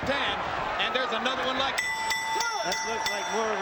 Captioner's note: bell rings